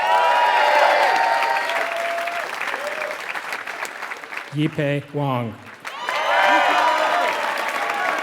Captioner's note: applause